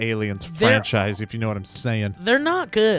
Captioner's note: laughs